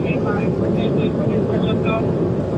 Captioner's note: radio